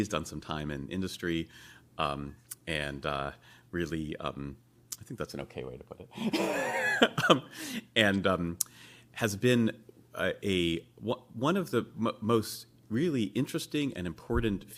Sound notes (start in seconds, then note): 6.2 laughs